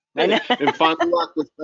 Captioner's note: laughs out loud